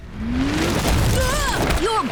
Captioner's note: groaning